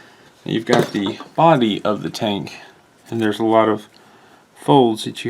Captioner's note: none